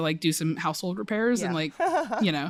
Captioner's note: laughter